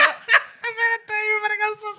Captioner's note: laughter